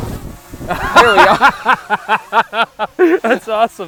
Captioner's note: Destin laughs